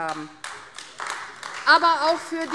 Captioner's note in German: Beifall AfD